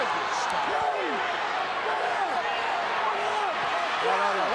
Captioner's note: crowd yelling